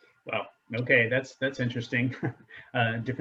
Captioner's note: giggles